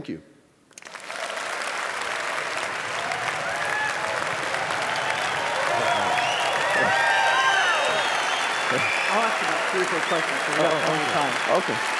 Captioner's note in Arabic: تصفيق